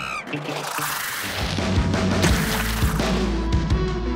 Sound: monkey screams; splash

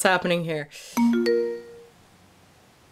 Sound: notification Sound

